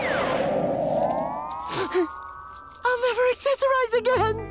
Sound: crying

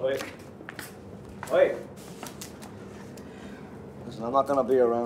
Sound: spanish

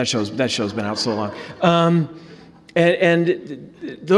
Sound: audience laughs

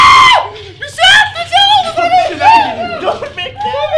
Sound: screams; screaming

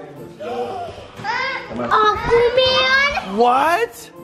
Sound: gasps

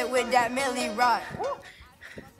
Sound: heavy breathing

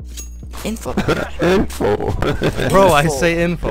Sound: laugh

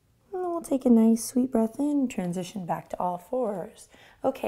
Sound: breath

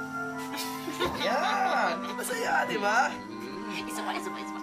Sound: both laughing

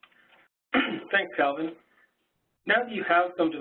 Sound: voiceover

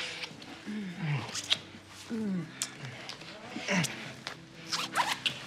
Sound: Darnell and Jada moaning

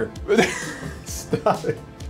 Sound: laughing

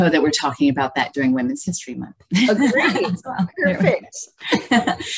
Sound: laughs

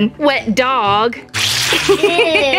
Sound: laughing

